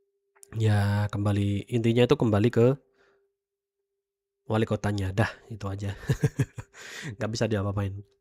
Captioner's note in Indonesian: tertawa